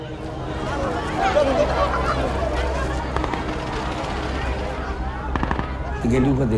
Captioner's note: people talking and gunshots